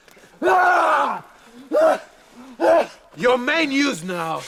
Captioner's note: Gunnar shouting